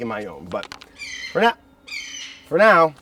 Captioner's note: bird squawks